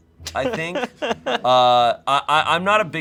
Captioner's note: laughing